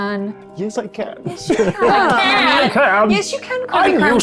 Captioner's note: chuckling